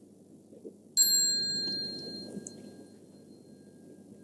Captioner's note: small bell